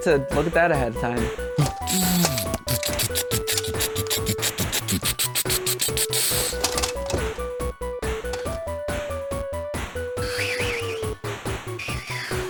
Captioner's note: various lazer noises